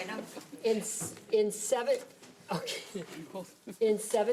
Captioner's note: laughs